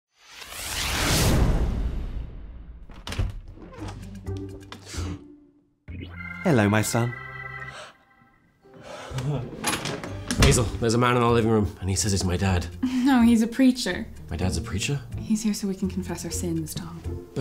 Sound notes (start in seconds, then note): 4.9 Tom gasps; 7.6 Tom inhales